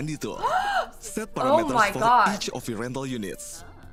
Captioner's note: gasps